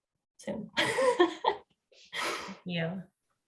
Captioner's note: woman laughing